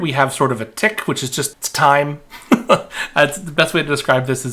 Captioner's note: laughing